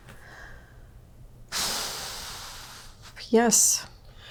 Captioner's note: exhales